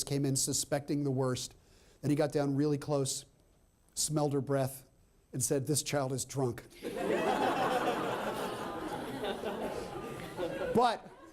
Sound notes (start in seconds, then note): 6.8 laughter